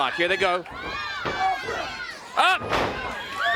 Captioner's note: crowd cheering